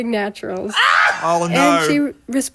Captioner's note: laughs